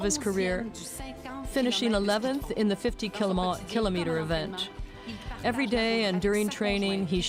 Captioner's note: speaking French